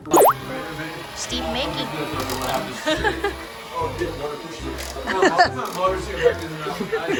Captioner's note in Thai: หัวเราะ; หัวเราะ